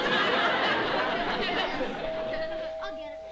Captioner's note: doorbell